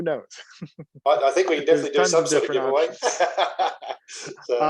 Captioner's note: laughing